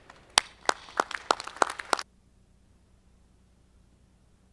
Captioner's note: audience clapping